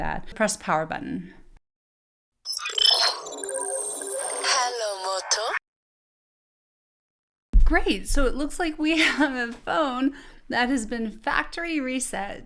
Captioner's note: Motorola phone sound